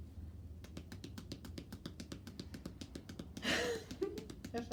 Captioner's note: hands tapping; laughs